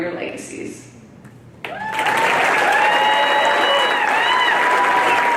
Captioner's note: cheering